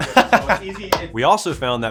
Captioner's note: laughs